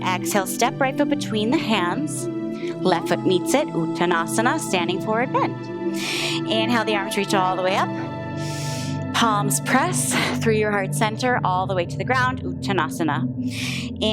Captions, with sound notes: Exhale, step right foot between the hands, left foot meets it, uttanasana, standing forward bend. Inhale, the arms reach all the way up. (inhales) Palms press, through your heart's center all the way to the ground, uttanasana.